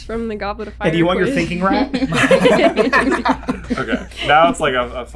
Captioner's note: laughter